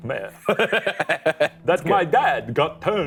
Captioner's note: laughing